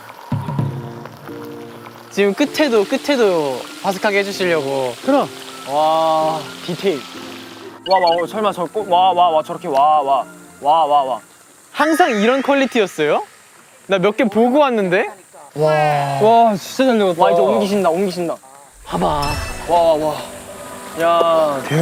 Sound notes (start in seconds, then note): 7.7 like robot repeating 'wa'